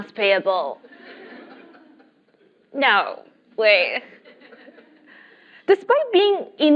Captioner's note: laugh